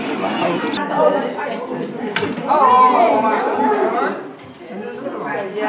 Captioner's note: room chatter